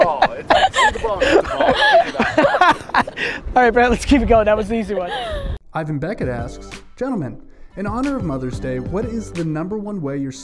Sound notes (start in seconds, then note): 0.0 all laughing; 5.9 voiceover